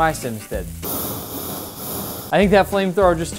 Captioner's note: air blowing